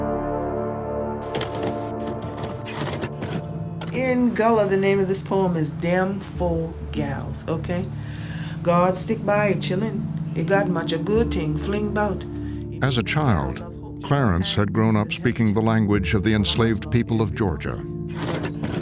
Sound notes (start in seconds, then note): 1.2 VHS tape loading